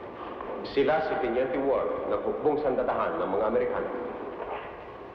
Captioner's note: priest speaking in Tagalog